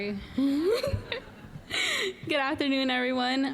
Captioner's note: all laughing